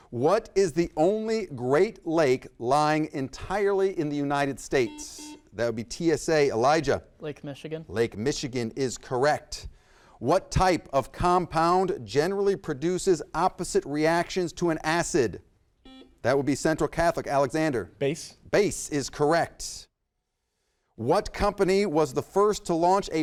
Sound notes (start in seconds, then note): 4.7 buzzer beeps; 15.8 buzzer beeps